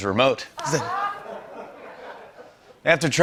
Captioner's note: laughter